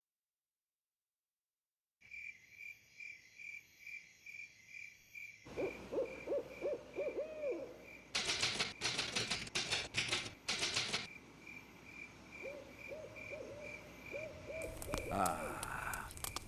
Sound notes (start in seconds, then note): 2.7 crickets chirping; 5.5 owl hooting